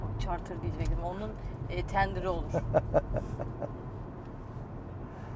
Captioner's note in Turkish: kahkaha